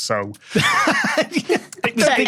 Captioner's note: laughs